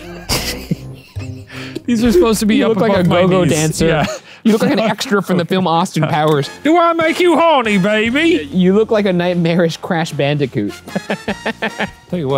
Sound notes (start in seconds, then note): 0.0 both laugh; 6.7 imitating Austin Powers; 10.9 laughs